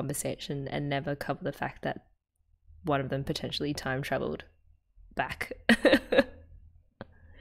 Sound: laughs

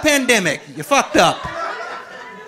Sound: audience laughing

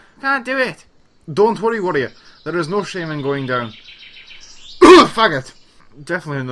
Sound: cough

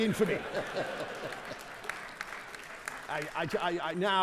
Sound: audience laughing; audience clapping

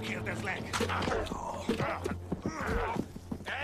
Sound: both grunting

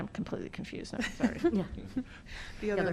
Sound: laughter

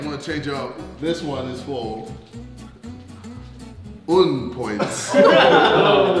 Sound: speaking foreign language; laughing

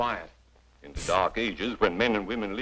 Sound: scoffs

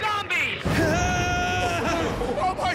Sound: man screams

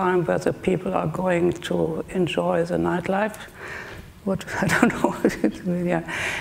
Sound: laughing

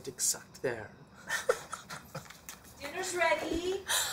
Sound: laughter

